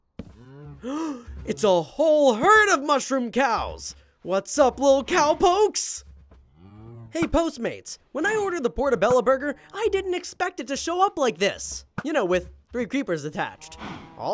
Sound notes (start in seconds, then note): 0.4 gasps